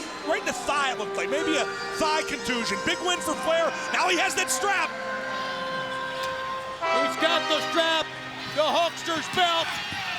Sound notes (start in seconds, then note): 5.6 belt smacking